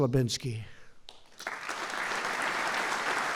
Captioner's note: applause